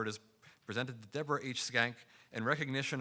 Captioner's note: none